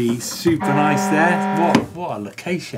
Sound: alarm sound

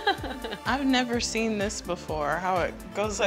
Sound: laughter

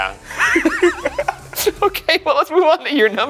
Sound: laugh

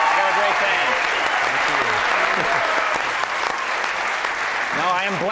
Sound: audience cheering and applauding

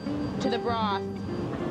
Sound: voiceover

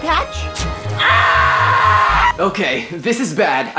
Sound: clark screaming

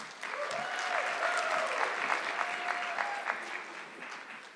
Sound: audience clapping

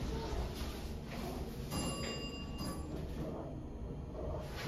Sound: bell dings to 1 / one

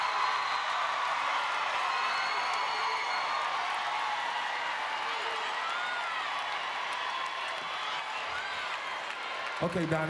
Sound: screams

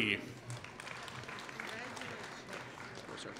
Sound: applause

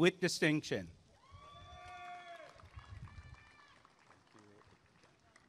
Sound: applause and cheering

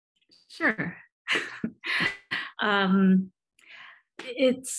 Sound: chuckles

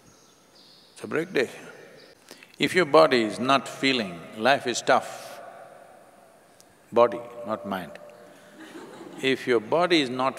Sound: laughter

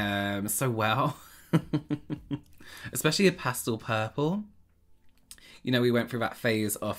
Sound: laughter

